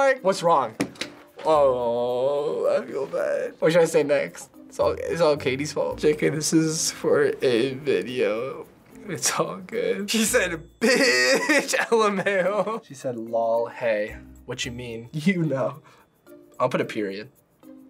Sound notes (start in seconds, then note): 0.8 hits table; 10.8 laughs